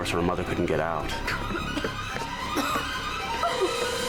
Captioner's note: coughing